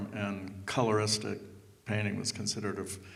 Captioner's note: none